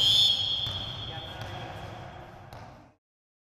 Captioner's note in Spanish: rebote de pelota